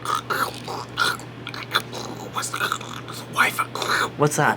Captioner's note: imitates bad phone reception